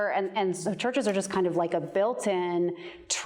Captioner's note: none